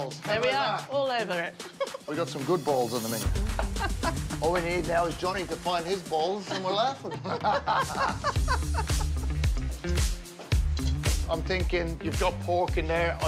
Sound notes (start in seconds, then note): 1.7 laughs; 3.5 laughs; 6.2 both laugh; 9.5 percussive music